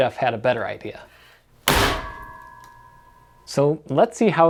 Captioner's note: can is smashed